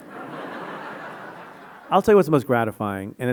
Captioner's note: audience laughing